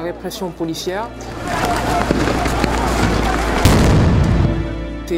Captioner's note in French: cris et tirs